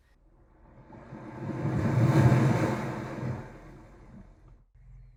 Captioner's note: wave crashing